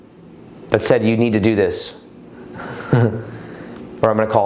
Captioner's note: laughs